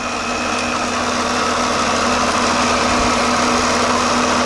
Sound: engines chugging

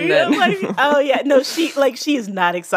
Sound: laughs

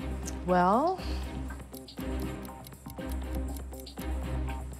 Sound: watch ticking

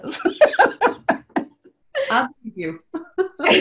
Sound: laughs

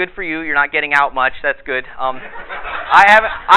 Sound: audience laughter

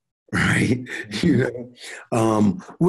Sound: chuckles

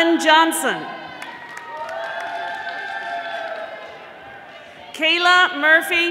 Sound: audience applauding

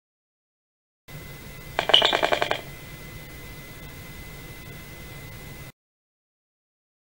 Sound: electric popping

